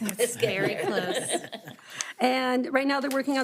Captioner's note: board members laughing